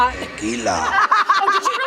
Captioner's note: both laugh